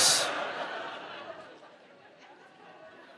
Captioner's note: audience laughs